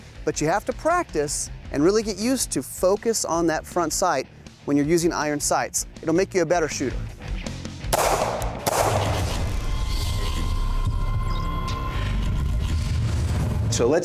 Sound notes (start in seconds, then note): 7.9 gunshot; 9.2 mechanical whirring